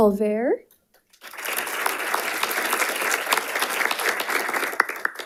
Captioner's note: audience applauding